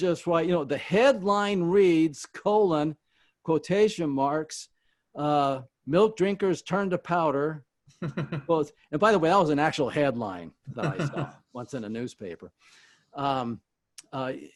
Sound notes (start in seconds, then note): 7.9 chuckles